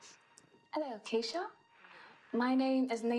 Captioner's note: British accent